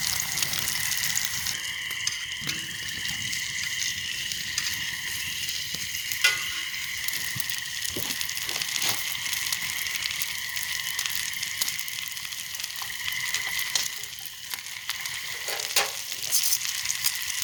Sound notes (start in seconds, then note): 1.4 sizzling & night wilderness & frog sounds